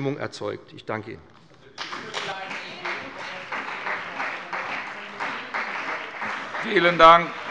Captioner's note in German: Beifall bei dem BÜNDNIS 90/DIE GRÜNEN und der CDU